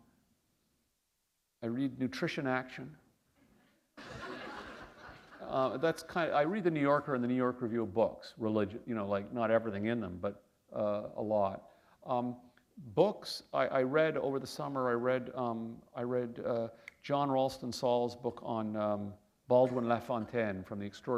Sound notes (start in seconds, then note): 4.0 laughter